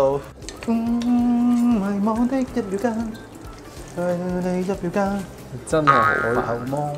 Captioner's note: he forgets the lyrics of the song he's humming